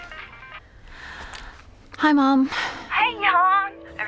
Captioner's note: cell phone rings; sighs